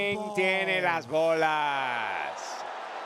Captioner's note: applause